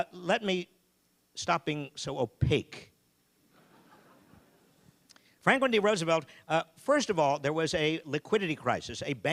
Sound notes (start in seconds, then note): 3.5 audience laughing